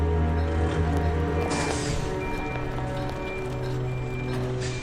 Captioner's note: backup signal beeping